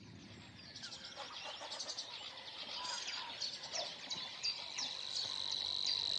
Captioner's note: birds chirping; insects chirping